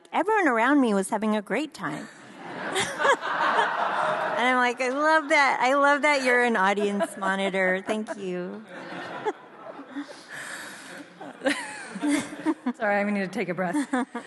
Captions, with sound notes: "Everyone around me was having a great time." (audience laughs) And I'm like I love that. I love that you're an audience monitor. Thank you. - (laughs) Sorry, I'm gonna need to take a breath.